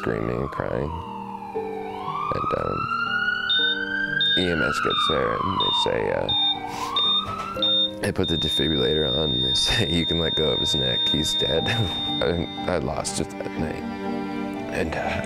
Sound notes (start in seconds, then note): 8.1 siren blaring; 9.1 beeping noise